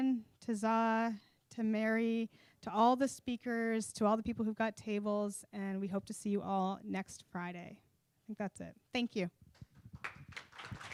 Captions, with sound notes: to Zaa, to Mary, to all the speakers, to all the people who got tables, and we hope to see you all next Friday. That's it. Thank you. (Applause)